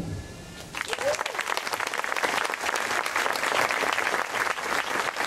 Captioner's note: applause